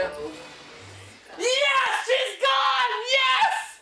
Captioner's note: screaming